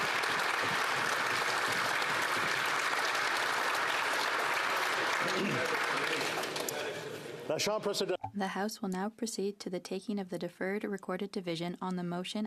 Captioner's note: applause